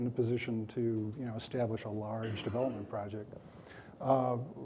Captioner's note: coughing